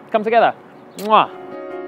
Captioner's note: kiss